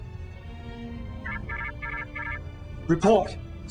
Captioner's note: alarm